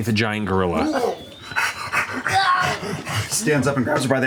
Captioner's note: panting; groaning